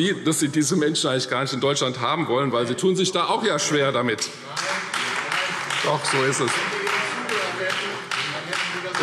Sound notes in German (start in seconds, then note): 4.5 Beifall : Nein! Nein! Nein!